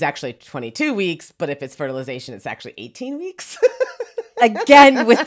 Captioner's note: laughs